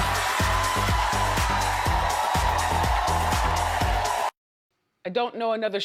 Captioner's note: audience cheers; lively music